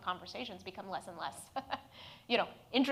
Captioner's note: laughs